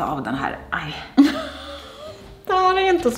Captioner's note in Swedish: skrattar